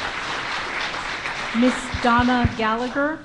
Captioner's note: applause